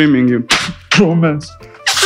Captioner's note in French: mouche